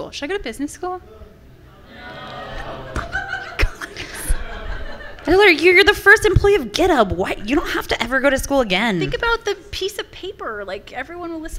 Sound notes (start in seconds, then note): 1.8 laughter from the audience